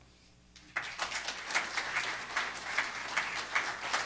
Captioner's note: clapping